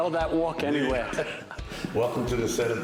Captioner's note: laughter